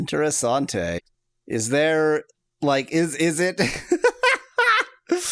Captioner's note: laughs